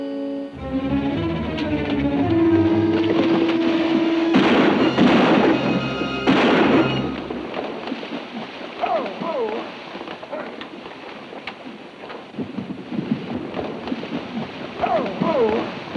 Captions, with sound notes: (exciting music) (gun bangs) Whoa, whoa! Ho, ho!